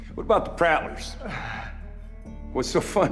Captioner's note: laughing